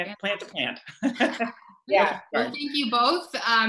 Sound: laughter

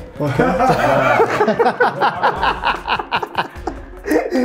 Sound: everyone laughs

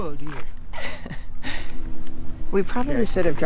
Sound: laughs

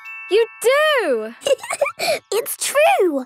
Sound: giggling

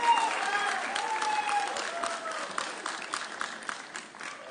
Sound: audience cheering

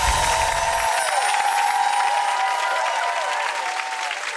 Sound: clapping

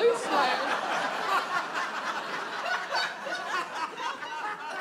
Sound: audience laughs

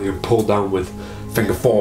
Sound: none

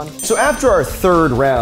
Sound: bell dings

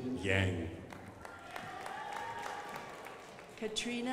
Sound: crowd applauding

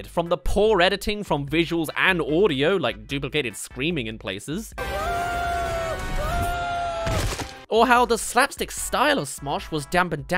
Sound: ahhh

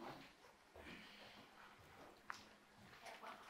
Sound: footsteps

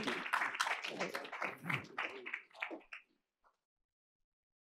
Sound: applause

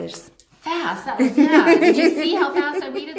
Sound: laughs

